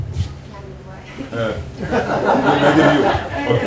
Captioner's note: laughter